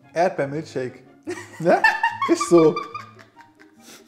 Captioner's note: laughing